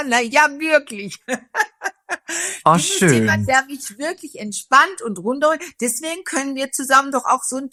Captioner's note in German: gelächter